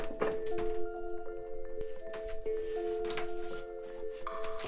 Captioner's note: blocks clanging